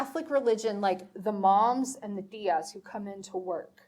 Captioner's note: speaking foreign language